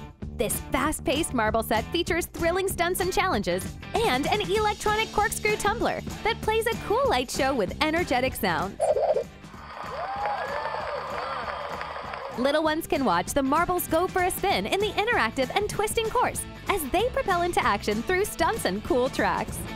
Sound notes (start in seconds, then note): 9.5 crowd cheering and clapping